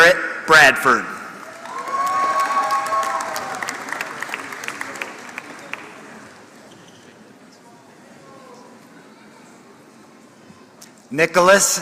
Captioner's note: applause